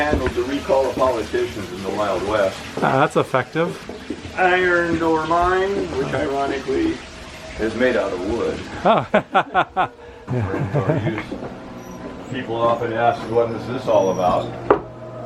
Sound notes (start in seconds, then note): 10.2 laughter